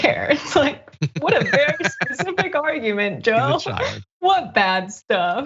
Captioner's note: laugh